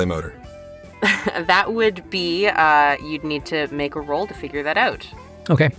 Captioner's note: chuckles